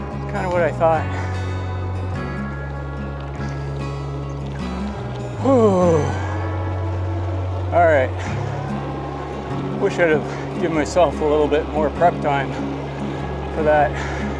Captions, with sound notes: Kinda what I thought. [breaths out deeply] Alright. Wish I'd of given myself a little bit more prep time for that.